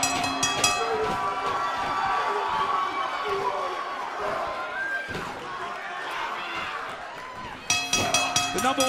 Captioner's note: bell ringing; crowd chatter